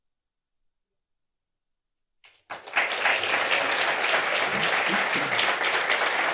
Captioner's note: applause